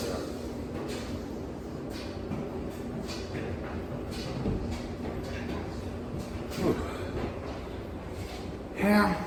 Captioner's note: dryer continues to run in background